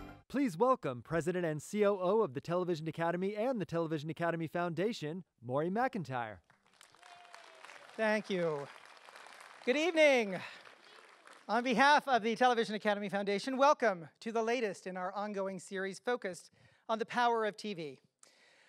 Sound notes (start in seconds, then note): 6.6 audience applause